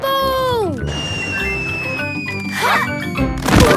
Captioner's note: whistling through air